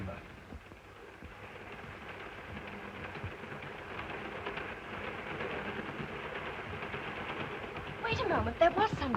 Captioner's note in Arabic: صوت خشخشة القطار